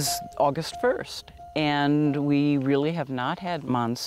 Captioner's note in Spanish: pájaros piando